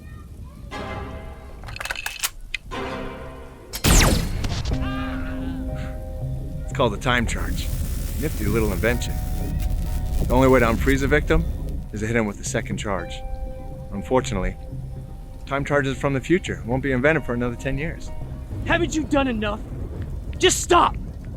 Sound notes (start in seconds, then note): 0.8 dramatic music; 3.8 laser firing; 4.8 agent groaning